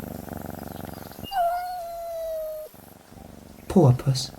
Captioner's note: cat purring; cat meows